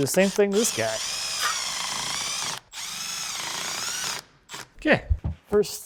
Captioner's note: screw drill whirring